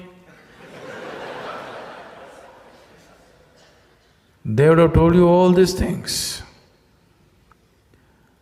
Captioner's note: laughter